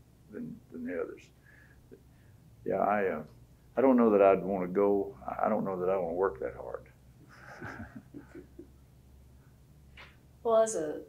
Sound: laughter

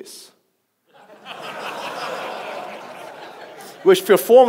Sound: audience laughs

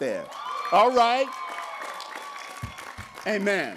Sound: cheering

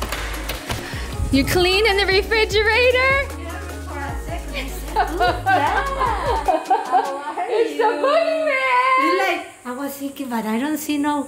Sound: laughing

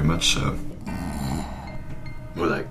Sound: falls asleep and snores

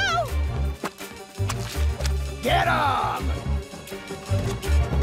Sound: spits

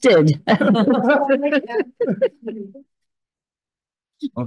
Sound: all laugh

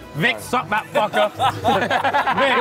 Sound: laughing

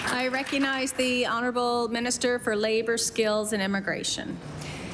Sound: applause

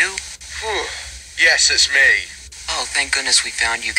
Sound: yawns

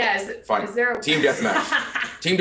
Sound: laugh

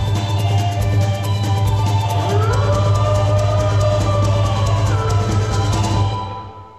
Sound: a howl; the music ends

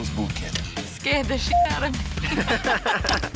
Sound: beep; laughing

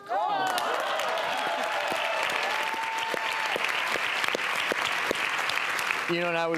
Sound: audience applauding and cheering

